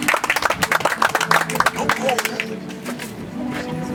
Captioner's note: audience applauds